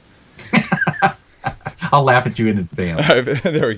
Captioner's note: laughs